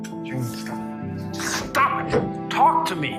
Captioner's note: shouting